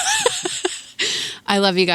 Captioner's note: laughs